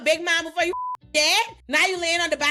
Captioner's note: beep